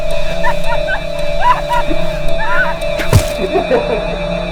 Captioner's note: ominous music; woman screams; clown laughs